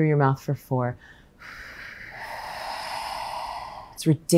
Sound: breaths gently

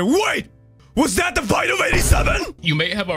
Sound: Vine boom

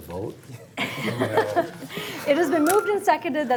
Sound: laughing

